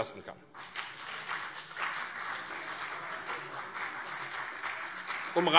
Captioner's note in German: Beifall CDU und BÜNDNIS 90/DIE GRÜNEN